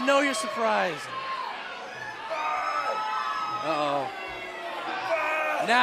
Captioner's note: crowd cheering